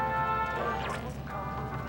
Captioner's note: radio tuning